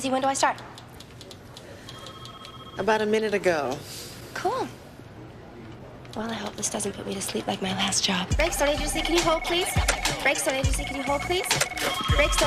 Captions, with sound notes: YOU KNOW WHAT? YOU KNOW WHAT? [all chattering] [all chattering]